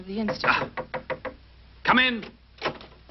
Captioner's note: knocking